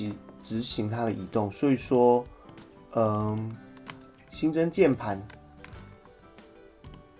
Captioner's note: keyboard